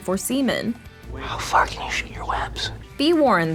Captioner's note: whispers